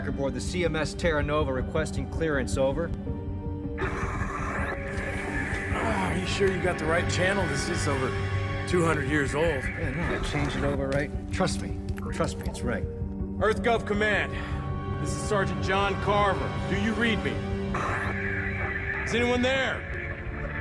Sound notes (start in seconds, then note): 3.8 static crackling